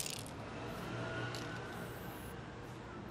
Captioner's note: traffic noise